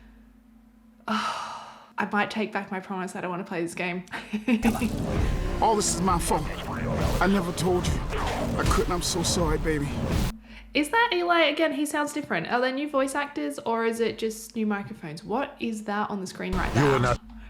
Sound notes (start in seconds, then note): 1.1 le sigh